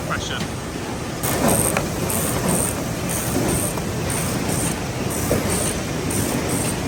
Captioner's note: machine ratcheting and whirring